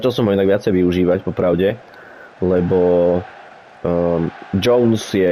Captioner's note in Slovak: Potlesk